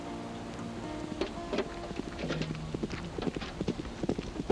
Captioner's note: hooves clopping